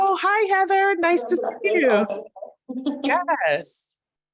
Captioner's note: speaker speaks softly